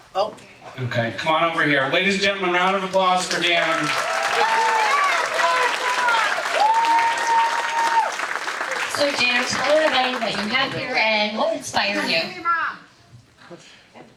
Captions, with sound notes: Oh. Okay, come on over here. Ladies and gentlemen, we're out of applause for Dan. (audience applauding) So Dan, tell us what you have here and what inspired you.